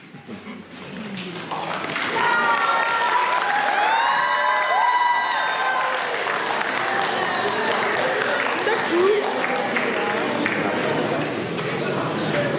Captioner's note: applause